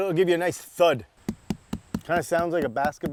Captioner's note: dense thuds